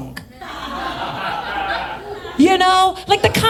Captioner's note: audience laughs